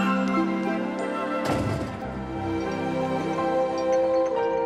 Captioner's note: door bangs; soft music